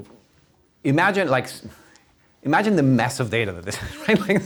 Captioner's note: laughs